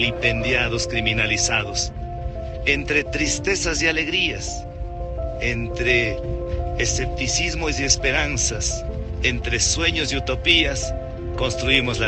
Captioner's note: Spanish